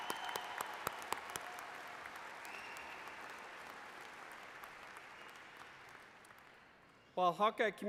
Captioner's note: applause